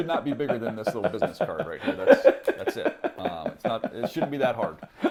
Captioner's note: laughter